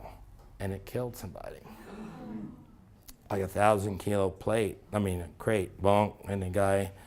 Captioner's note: gasp